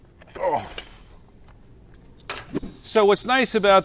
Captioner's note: grunts